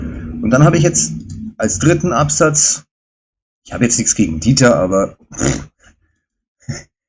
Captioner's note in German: räuspern